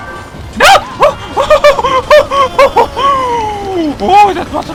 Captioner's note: relief laughter